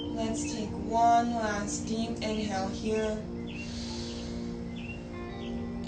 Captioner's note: inhales